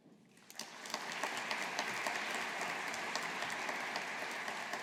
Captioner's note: audience applauding